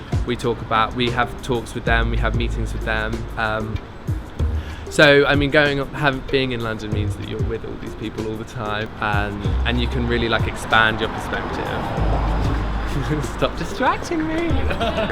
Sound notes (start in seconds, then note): 14.4 laughter